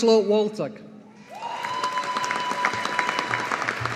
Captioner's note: audience applauding